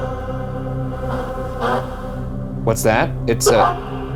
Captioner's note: radio static buzzes